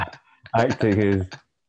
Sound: laughter

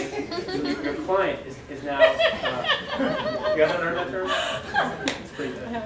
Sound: audience still laughing

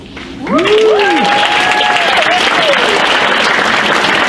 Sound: cheers and applauds

